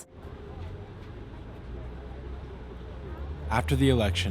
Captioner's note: group chattering